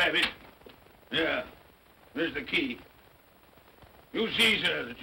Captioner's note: grumbles